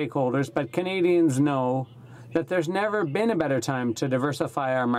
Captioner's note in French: voix de l'interprte